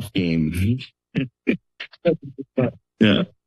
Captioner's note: laughter